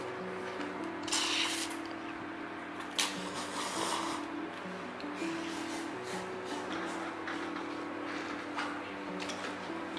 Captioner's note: Slurp..~